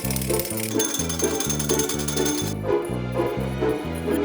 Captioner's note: whisk jangles